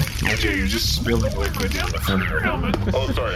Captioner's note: shouting